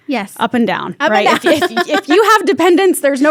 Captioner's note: laughs